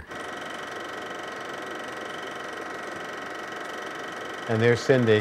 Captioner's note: film projector whirring